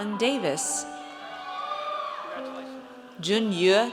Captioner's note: audience cheers